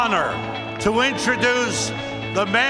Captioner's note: cheers and applause